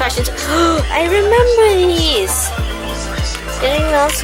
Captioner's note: gasp